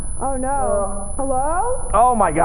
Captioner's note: high pitched ringing